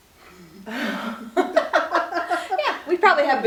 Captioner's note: laughing